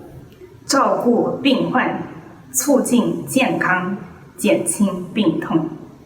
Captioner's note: speaks in foreign language